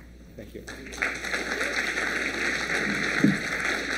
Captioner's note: applause